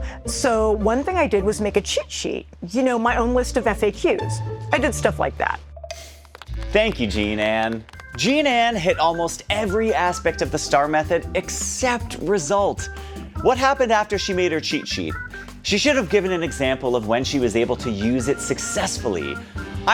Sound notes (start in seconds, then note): 6.0 light clapping